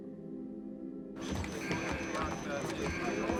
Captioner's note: alarm beeping, men talking